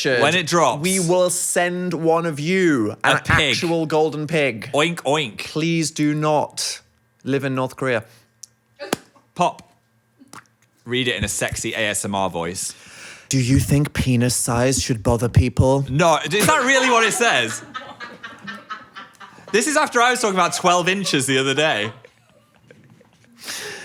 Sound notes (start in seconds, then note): 16.3 both laughing